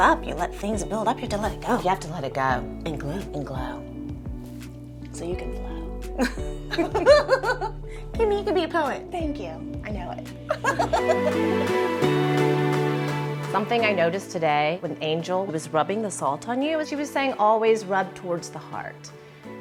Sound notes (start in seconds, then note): 6.7 twins laugh; 10.4 laughs